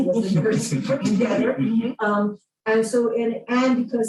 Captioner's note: laughter